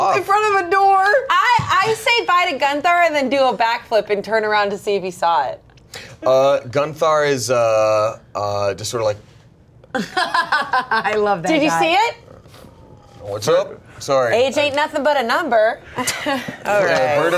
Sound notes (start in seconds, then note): 9.9 laughs